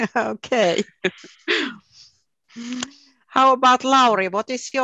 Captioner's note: laugh